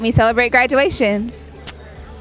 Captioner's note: blows kiss